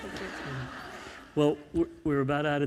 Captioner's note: crowd laughing